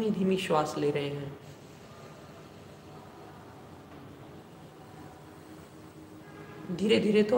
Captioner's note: slow deep breathing